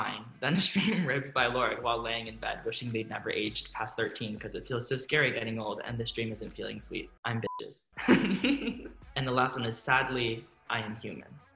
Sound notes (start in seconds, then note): 8.0 laughs